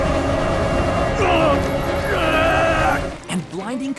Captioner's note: grunting